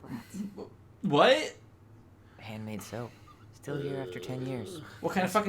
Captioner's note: groans uncomfortably